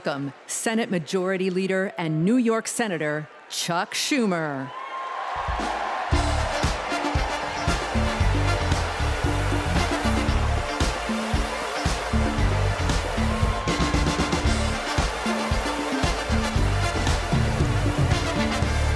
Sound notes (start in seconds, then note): 8.2 cheers and applause